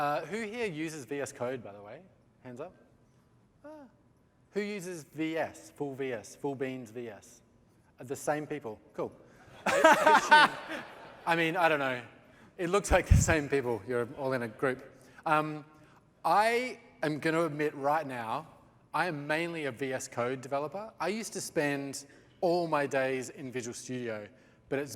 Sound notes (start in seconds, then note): 9.5 laughter